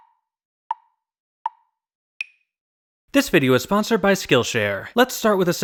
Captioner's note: tick, tick, tick, tick, tock